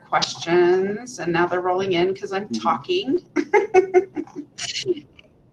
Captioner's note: laughs